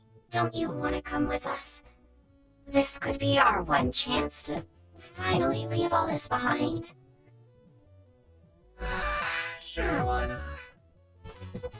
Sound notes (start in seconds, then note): 8.8 sighs